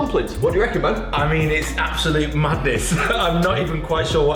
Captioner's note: laughs